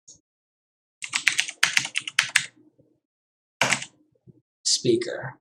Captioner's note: keyboard clicking